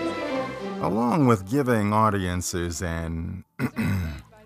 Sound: throat clearing

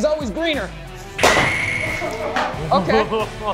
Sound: bat colliding

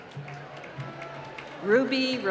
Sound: applause

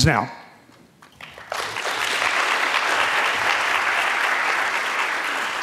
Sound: audience clapping

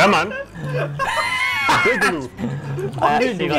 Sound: painfully loud laugh; admist laughter

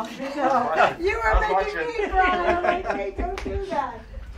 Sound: laughing

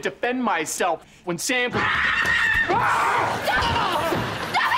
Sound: screaming

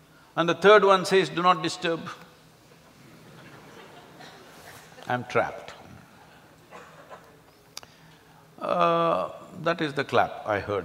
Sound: laughter

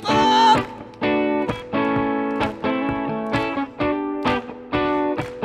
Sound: audience clapping

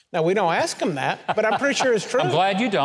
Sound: Mike and audience laughing

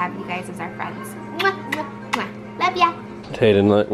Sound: kissing sounds

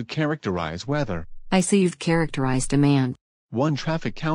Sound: voice-over

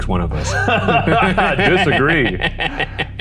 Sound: both laughing

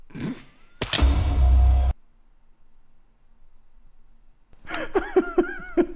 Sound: death sound; laughing; in Spanish

